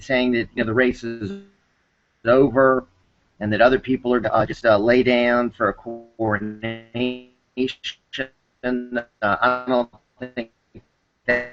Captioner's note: noise interference